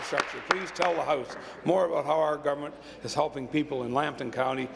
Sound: applause

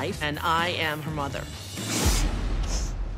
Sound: snorts, sniffles

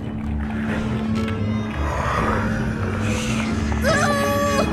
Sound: heavy breathing; whining

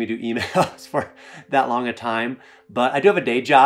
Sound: chuckling

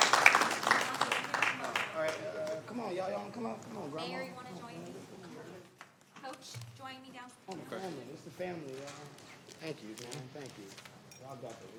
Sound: applause

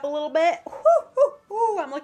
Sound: imitation of an owl

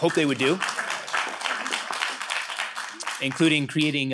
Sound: audience clapping

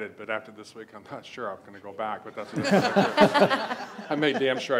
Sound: laughs

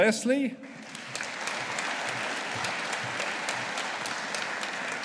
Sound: audience applauding

